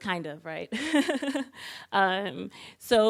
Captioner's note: laughing